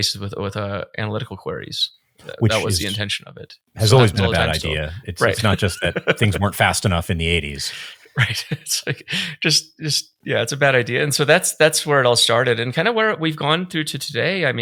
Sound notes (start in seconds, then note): 5.2 laughing; 7.6 chuckling